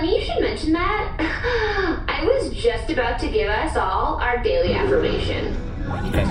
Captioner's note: fake-girl laugh